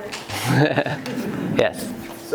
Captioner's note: laughing